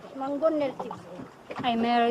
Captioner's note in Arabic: التحدث بلغة أجنبية